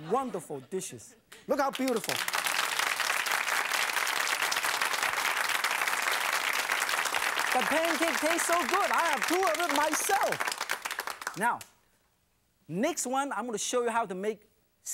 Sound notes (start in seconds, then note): 2.8 audience applauds